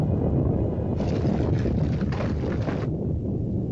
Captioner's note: explosion; volcano rumbles; shaking & clattering; volcano rumbles